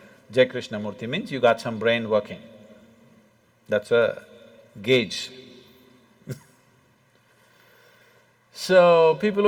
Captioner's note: laughs; Cười